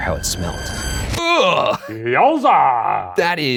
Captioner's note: groans